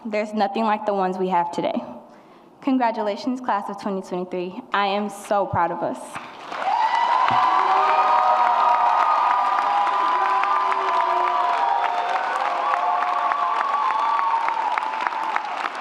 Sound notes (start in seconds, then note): 6.4 audience cheers and applauds